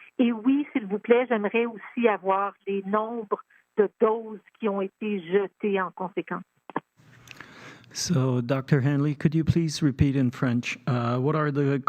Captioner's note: speaking French